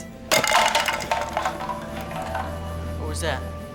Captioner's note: tin can rattles